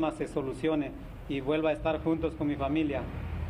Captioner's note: speaking spanish